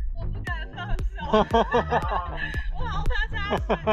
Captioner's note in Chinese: 呵呵呵哈哈哈